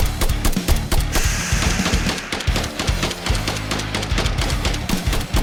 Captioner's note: scorpion hisses